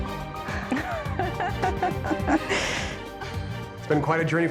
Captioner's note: both laughing